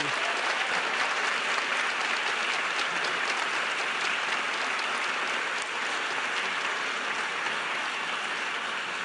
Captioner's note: applause